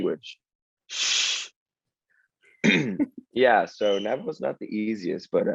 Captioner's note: bird chirping in background